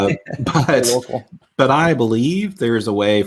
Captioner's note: laughing amusingly